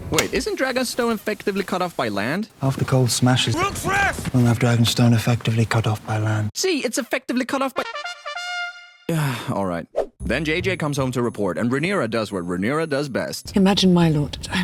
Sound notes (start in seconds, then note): 7.8 trumpet fanfare; 9.1 sigh